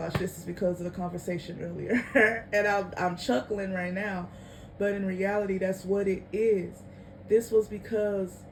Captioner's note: chuckling